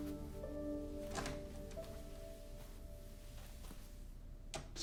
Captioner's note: door clicking